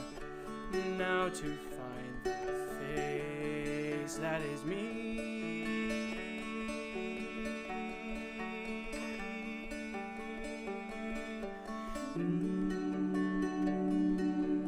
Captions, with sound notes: Now to find the face that is me [Humming]